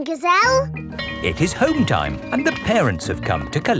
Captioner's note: bell tolling